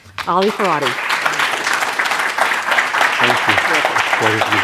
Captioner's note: applause